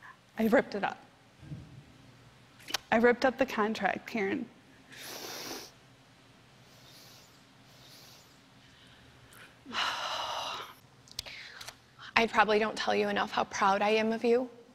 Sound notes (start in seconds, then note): 4.9 sniffling; 9.5 sighs